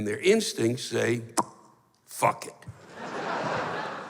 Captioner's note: pops